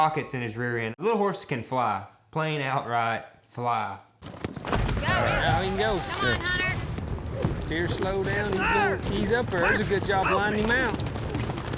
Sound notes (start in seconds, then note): 5.6 all shouting